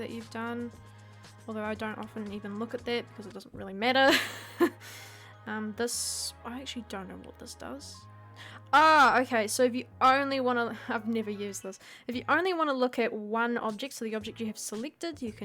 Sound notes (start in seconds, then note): 4.1 laughing